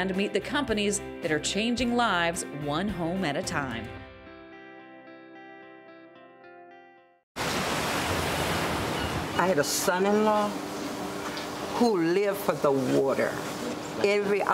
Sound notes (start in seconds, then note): 4.2 gentle acoustic music; 7.4 waves crashing